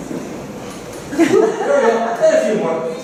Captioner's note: laughter